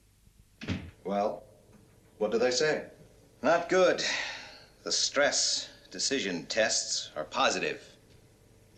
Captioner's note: sighs and gasps